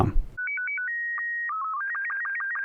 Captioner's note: beeping